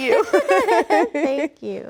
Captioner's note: Rachel laughs; laughs